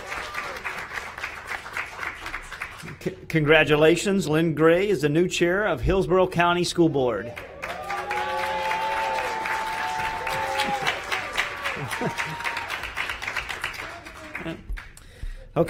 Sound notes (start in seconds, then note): 8.0 applause; 13.2 cheers and applause